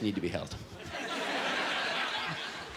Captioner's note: laughter